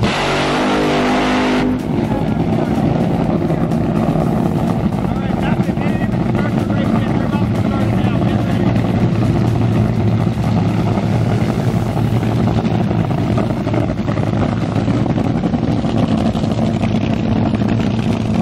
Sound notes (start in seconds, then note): 0.0 engine revs loudly; 9.3 engines growling